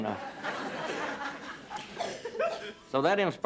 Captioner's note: laughing